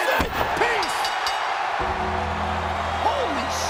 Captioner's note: bell rings